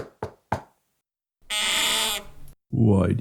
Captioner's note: knock on Door